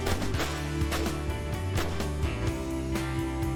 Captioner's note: gunfire